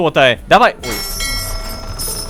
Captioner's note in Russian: Звук корабельного колокола